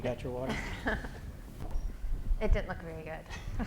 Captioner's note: chuckles